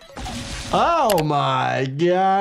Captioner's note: blood squelching; mouse clicking